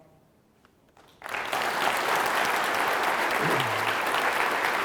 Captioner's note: audience claps